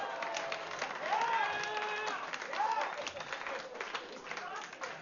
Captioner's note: vítores y aplausos